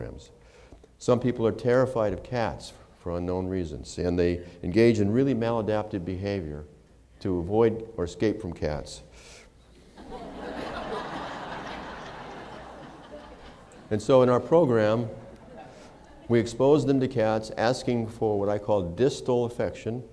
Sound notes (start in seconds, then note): 9.8 laughter